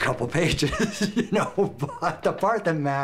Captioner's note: laughs